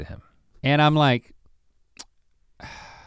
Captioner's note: sighs